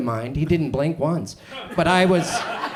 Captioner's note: audience chuckles